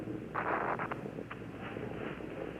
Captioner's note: PA system static